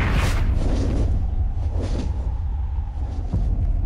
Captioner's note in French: puissants battements d'ailes